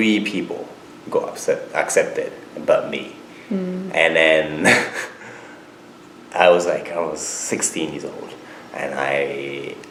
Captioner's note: laughs